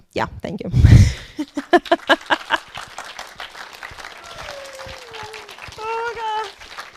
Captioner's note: audience clapping; audience cheering